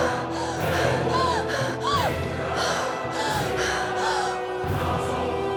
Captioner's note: screaming; panting continues